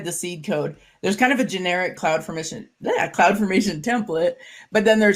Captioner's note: stutters